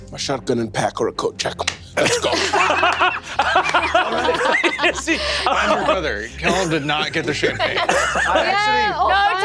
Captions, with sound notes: - My shotgun and pack are at coat check. Let's go. (everyone laughs) - How's your brother? Tell him to not get the champagne.